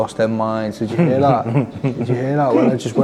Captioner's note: chuckling